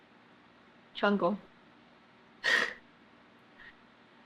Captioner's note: laughs